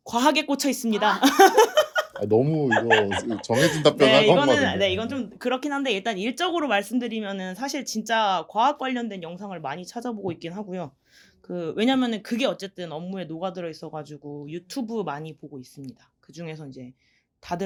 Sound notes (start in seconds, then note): 2.6 chuckles